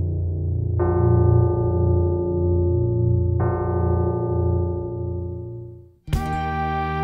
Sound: bell tolling

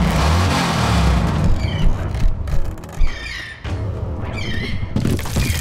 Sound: birds screeching

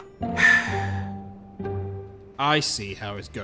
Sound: sigh

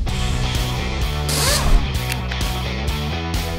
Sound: impact gun buzzing

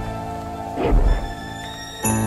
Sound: sizzling

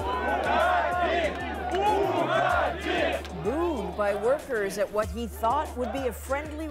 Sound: chants

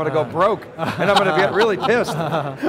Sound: team laughs

